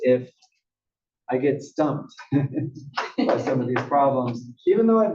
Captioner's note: laugh